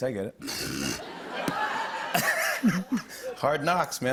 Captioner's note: laughter